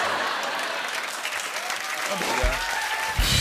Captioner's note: cheers and applause